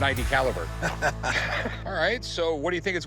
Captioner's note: laughs